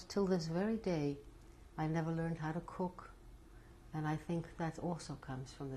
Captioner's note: none